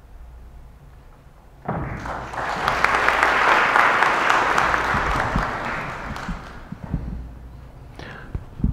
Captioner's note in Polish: oklaski